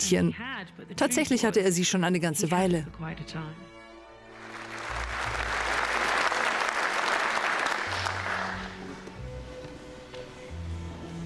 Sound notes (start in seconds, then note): 4.4 applause